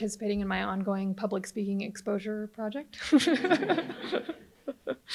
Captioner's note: laughs; audience laughs